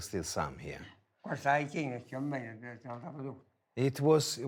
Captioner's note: speaking foreign language